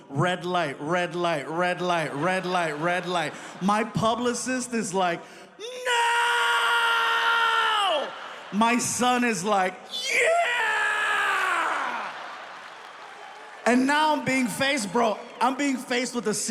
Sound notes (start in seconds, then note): 11.1 audience applauding; 11.8 audience laughs